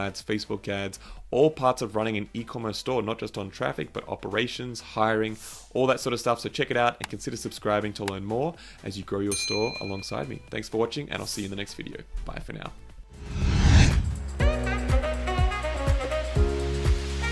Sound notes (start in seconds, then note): 13.2 whooshing; 14.5 upbeat music